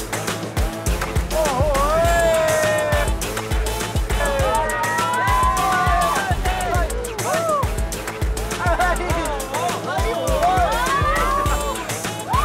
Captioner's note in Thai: เสียงโห่ร้องสนุกสนาน